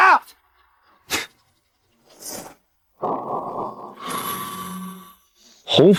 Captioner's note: slurp